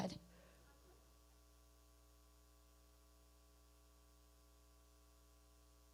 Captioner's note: person speaking away from mic